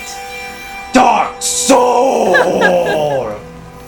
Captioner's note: her laughter ceases